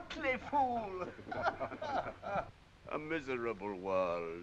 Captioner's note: all laughing